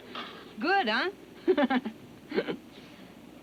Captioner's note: laughs